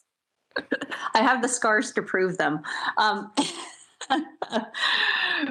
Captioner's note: laughs